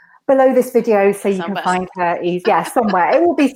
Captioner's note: laughs